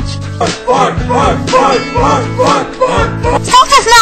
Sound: everyone chanting fight!!!

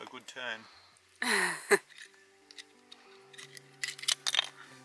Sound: laughs

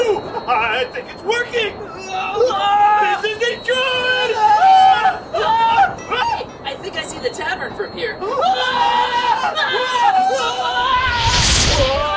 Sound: screams; screams

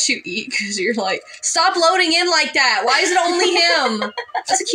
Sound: laugh

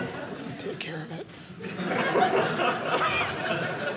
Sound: audience laughing

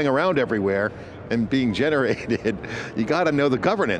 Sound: chuckles

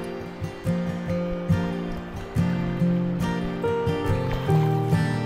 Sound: wind

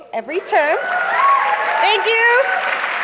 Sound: audience cheers

